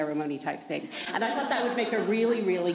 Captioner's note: laughter